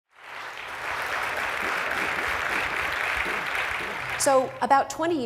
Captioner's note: applause